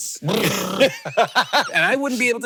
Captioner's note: Hank laughing